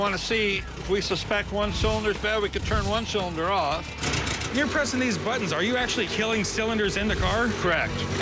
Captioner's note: none